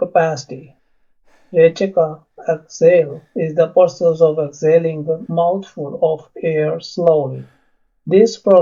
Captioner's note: exhale